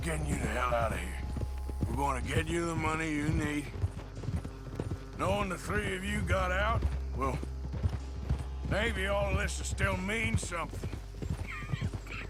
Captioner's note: coughs